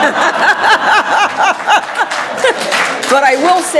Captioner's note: audience laughing loudly; audience applauding